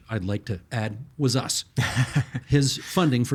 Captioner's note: chuckling